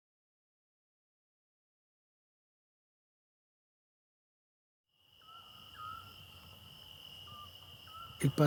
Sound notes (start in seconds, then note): 5.2 birds chirping